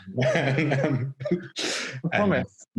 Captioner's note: laughing